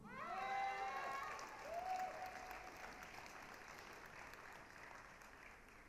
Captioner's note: applause, cheering